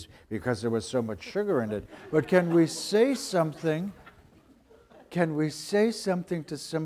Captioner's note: audience laughter